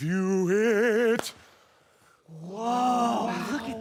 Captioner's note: rustling